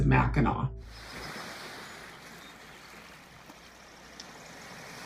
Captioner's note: birds chirping